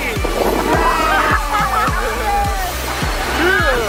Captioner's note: cheering